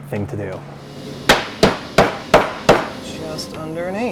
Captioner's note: hammering